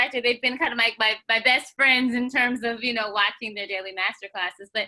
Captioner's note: none